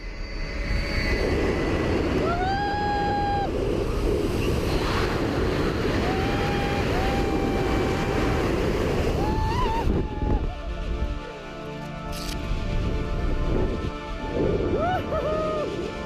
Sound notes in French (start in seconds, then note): 2.0 il crie; 5.9 cri